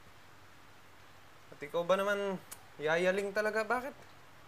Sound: clicks tongue

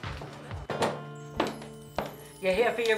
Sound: bells jingle

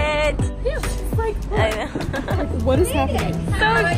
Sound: laughs

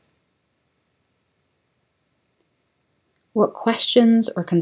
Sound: silence

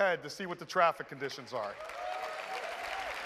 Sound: applause

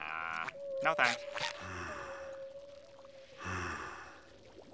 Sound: breathing

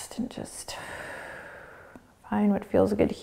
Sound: exhaling

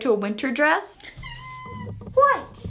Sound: cat meows

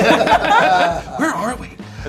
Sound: laughter

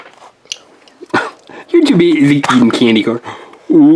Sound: laughs

